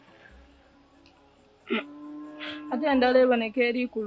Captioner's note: sobbing